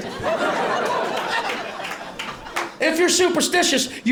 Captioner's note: laughter